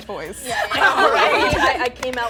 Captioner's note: everyone laughing